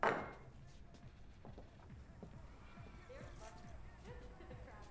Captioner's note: crd cheering on television